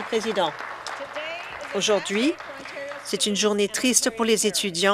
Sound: applause

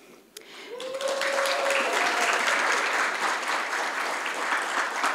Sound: audience cheers and applauds

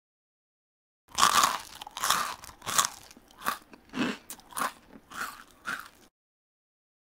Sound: sound of eating

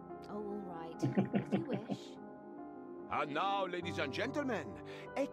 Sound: chuckles

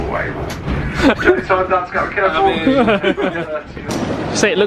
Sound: laughing

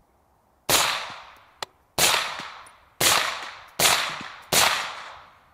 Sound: rifle fires

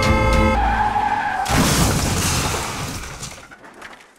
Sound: accident sound

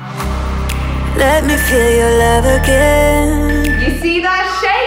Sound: alarm beeping

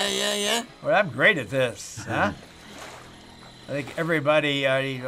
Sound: chuckling

